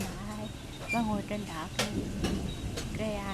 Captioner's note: thunder